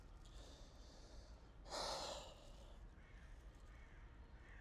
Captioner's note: sighs heavily